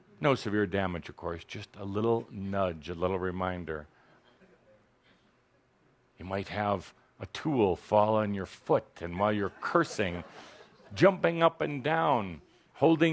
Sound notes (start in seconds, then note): 9.4 laughter